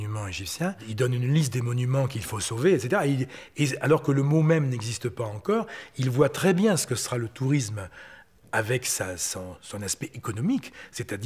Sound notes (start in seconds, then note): 3.6 French spoken audio